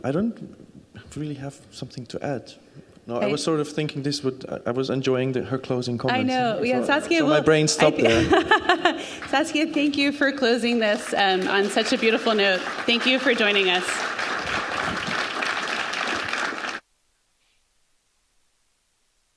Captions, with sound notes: - I don't really have something to add. I was sort of thinking I was enjoying her closing comments- - I know. Yeah, Saskia, we'll- - So my brain stopped there. (group laughing) - Saskia, thank you for closing this (audience applauding) on such a beautiful note. Thank you for joining us.